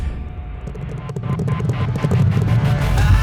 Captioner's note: horses Galloping